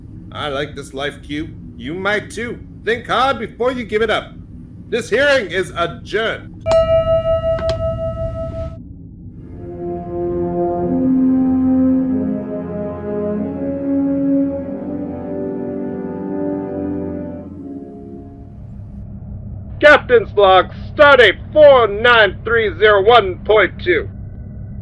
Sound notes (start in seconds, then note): 6.6 gavel & bell